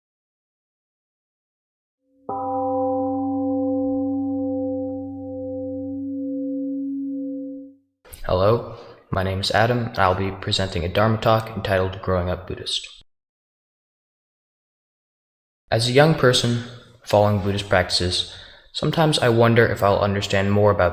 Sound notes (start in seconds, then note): 2.2 temple gong rings and fades